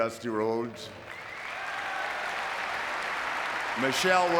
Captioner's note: audience clapping